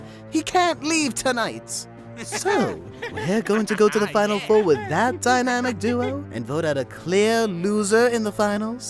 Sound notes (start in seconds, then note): 2.2 Balloon and Nickel laughing